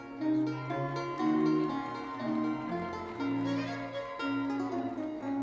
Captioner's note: audience applauding; audience cheering; lively classical music continues